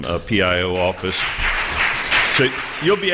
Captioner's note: applause